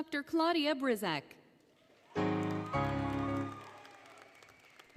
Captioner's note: applause, Cheering, Music; applause, Cheering